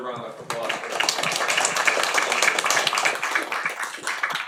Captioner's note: audience applauds